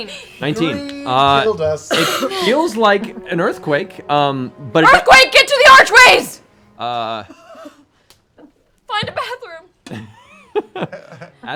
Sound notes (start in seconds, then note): 4.4 shouting; 7.7 quieter